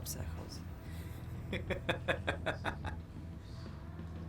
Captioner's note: laughs